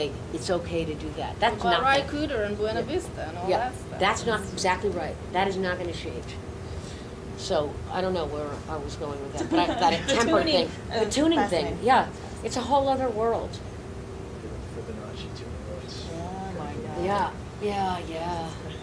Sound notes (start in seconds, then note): 9.4 laughing